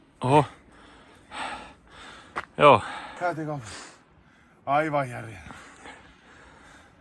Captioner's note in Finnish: huokaisee